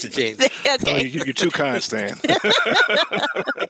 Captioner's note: laughter